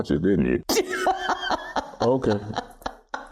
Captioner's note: laughter